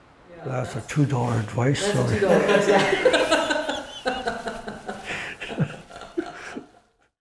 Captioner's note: laughter